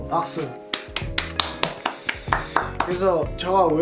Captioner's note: self-applause